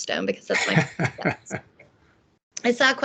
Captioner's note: laughing